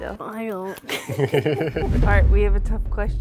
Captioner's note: laugh